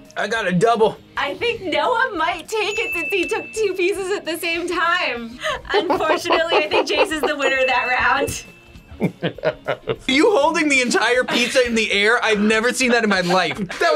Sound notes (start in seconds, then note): 8.9 laughs